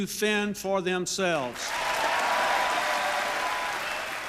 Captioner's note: applause